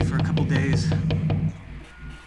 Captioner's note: knocking continues